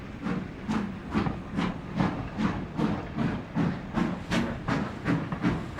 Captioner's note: train passing